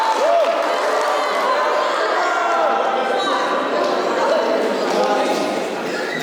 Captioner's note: applause